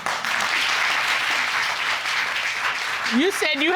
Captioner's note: audience applauding